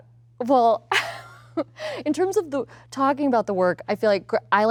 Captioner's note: laughs